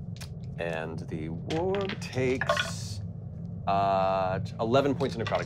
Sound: rolling dice

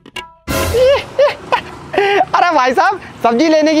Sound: laughing

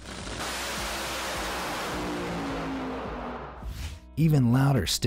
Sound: engine roaring

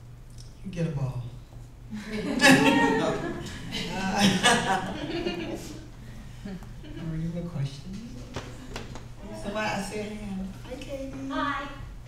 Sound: laughter

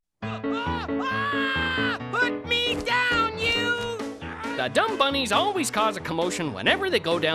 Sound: screaming

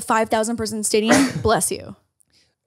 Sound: crew member sneezing

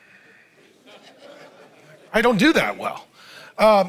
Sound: audience laughs

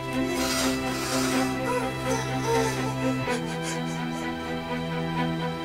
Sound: crying

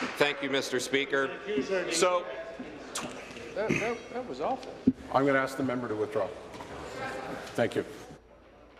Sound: applause

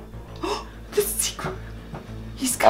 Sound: gasps

